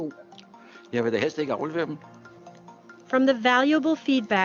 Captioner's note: man speaks foreign language